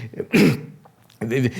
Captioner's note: clears throat